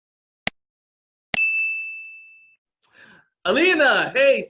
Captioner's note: beep